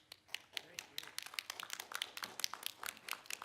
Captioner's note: applauding